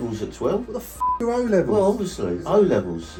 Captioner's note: beep